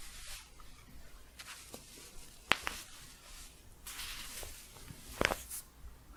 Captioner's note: staticky shuffling and crinkling